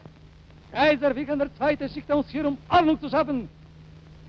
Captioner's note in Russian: говорит по-немецки